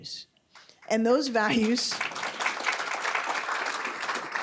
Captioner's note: applause